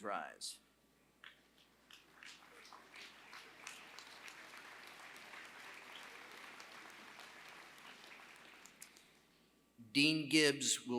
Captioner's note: applause